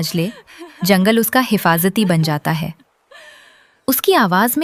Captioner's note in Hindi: अचानक ज़ोर से सांस लेने की आवाज़